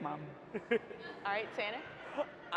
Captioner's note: laughs